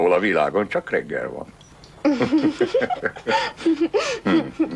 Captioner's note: both giggling